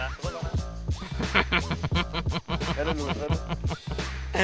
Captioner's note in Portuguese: Risadas